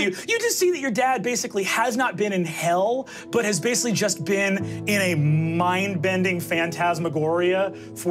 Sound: none

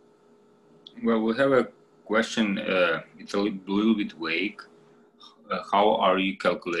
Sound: speaks faintly

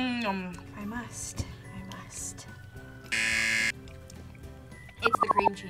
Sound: buzzer rings

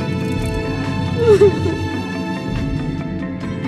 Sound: crying

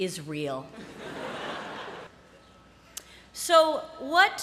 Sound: laughter

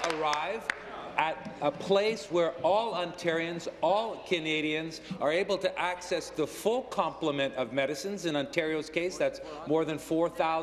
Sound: applause

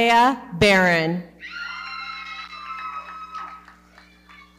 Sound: audience cheering and clapping

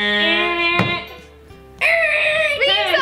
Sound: buzzer sound and thump; buzzer sound; screeching sound

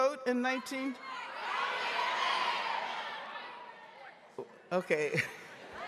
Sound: audience members shouting

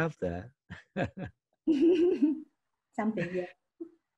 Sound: both laughing

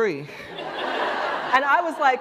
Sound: laughter

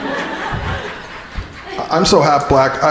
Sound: crowd laughing

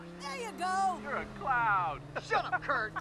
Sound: laughs

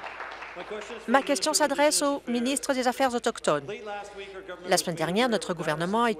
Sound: applause

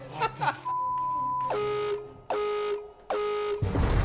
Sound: laughs; buzzer sounds

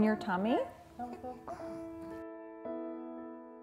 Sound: baby gurgles; gentle piano music

